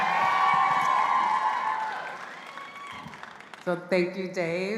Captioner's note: all applauding and cheering